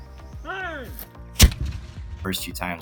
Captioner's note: cannon fires